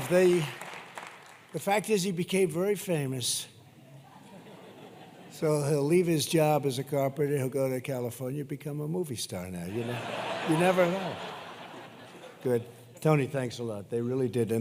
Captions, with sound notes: The fact is he became very famous. (laughter) So he'll leave his job as a carpenter, he'll go to California and become a movie star now. You know? (laughter) You never know. Good. Tony, thanks a lot. They really did.